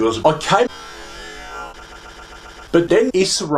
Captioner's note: deep inhale, hyperventilating